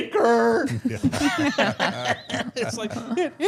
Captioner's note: all laughing